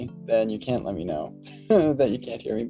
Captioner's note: laughs